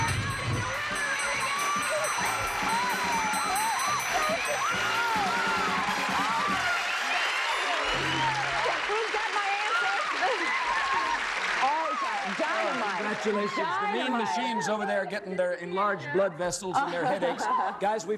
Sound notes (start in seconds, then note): 2.9 ringing; 5.3 cheers and applause